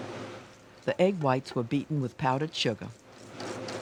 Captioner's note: voiceover